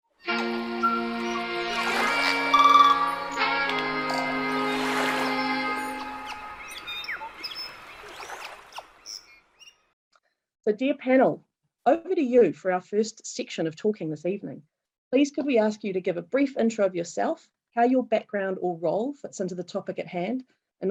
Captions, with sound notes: (bright upbeat music) (birds chirping) - Dear panel, over to you for our first section of talking this evening. Please could we ask you to give a brief intro of yourself, how your background or role fits into the topic at hand.